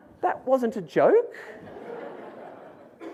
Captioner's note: audience laughs